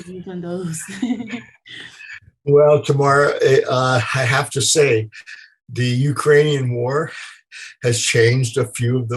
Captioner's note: laughter